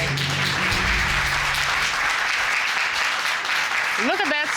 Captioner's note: audience applauding